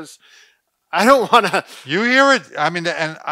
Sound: laughing

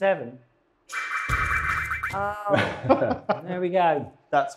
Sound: stuttering electronic noises

